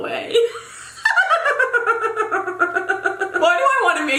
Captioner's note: laughing